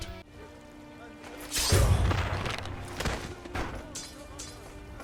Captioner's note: gentle music; sword blade slashes; metal clashes